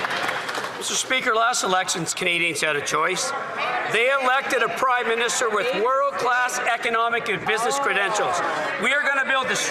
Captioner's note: some Applause